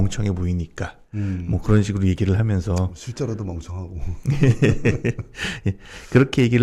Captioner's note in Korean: 웃음